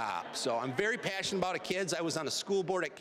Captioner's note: audience laughing